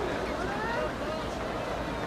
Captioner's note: applause